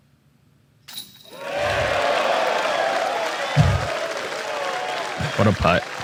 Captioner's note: crowd cheering